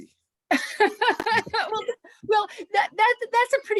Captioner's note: laughs